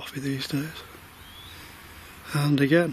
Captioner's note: whistle